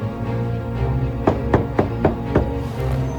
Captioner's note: knocking